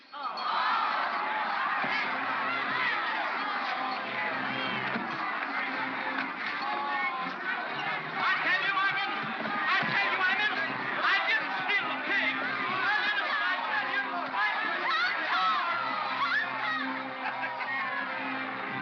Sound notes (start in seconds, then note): 0.2 crowd clamors in protest; 13.1 crowd clamors; 17.2 Barnaby laughs